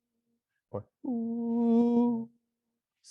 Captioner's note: makes rising and falling vocal sound